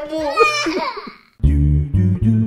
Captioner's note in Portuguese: chorando